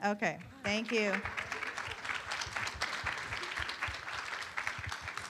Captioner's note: room applauds